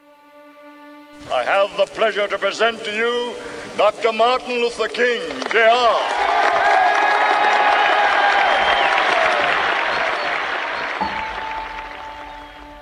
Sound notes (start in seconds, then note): 0.0 inspirational music; 5.2 crowd applauding; 5.2 crowd cheering